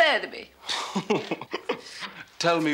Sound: Mr. Coleman laughs

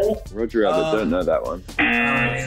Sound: buzzer

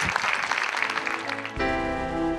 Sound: applause

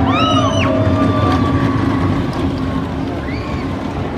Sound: people shouting

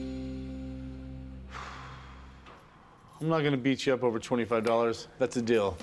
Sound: exhales

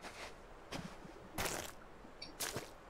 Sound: squelch

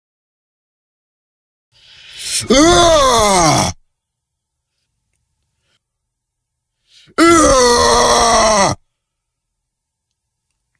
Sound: sound of male growls

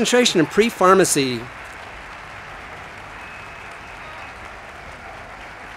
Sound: audience applauding

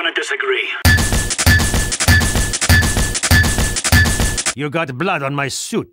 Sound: hitting sounds?

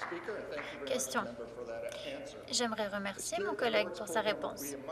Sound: applause

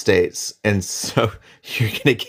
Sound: laughs

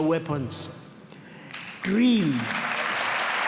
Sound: applause

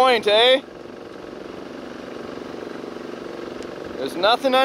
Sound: engines rumbling

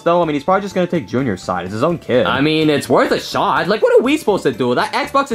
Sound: none

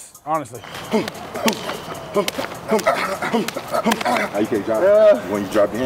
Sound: grunting; slapping

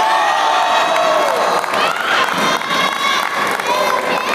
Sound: applause

